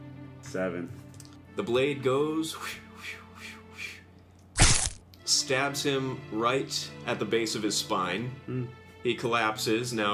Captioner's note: makes whooshing noises